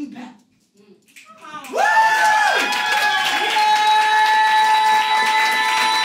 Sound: audience cheers and claps

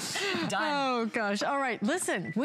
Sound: laughter

